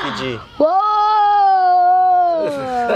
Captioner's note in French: Cri d'enfant